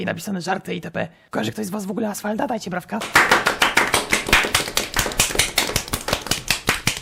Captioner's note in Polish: aplauz